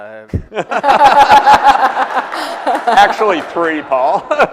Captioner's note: laughter